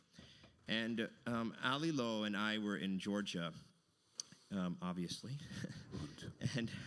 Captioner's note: laughs